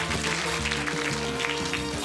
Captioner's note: audience applauding